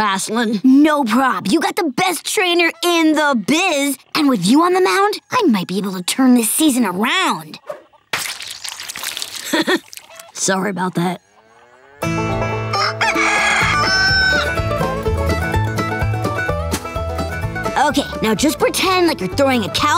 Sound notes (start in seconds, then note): 8.1 squishing; 9.3 chuckles; 12.1 clucking